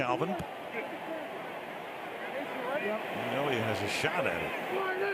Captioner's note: onfield chatter